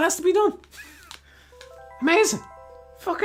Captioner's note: laughing in rebellion of smart TVs